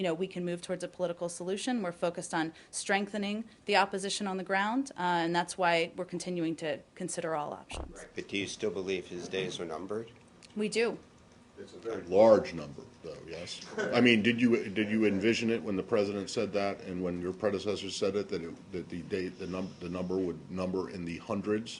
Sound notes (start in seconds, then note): 13.6 laughter